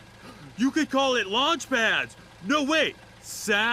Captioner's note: gasps